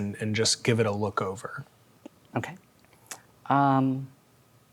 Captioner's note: none